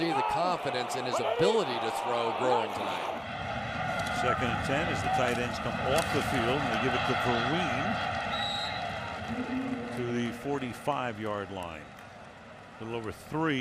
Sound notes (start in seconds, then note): 8.3 whistle blows